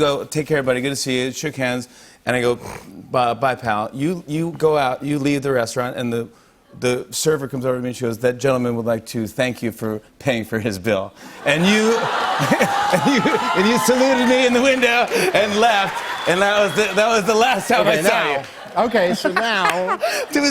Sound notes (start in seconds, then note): 11.4 laughter; 11.8 cheers and applause